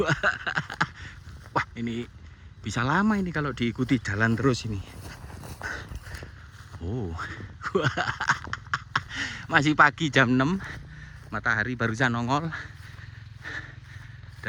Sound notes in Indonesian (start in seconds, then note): 0.0 tertawa; 6.8 tertawa